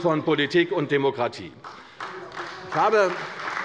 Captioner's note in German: Beifall bei der CDU